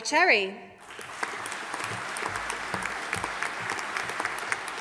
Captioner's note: audience applauding